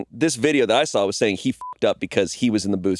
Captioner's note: beeping